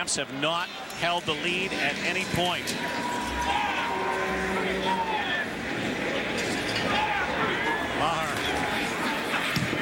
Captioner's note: crowd Booing